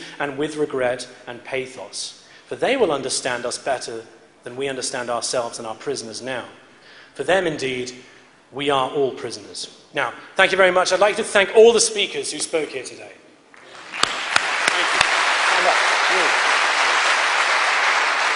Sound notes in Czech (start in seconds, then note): 13.5 potlesk